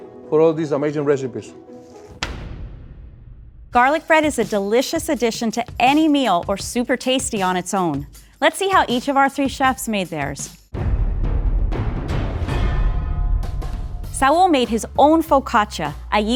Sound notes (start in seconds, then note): 2.3 pointer taps board; 10.7 dramatic thumping